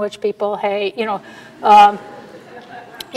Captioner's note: audience laughter